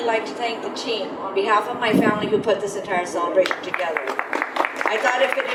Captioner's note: audience applause